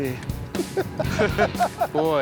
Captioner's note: both laughing